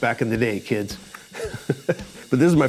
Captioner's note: laughs